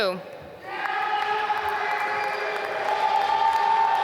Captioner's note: applause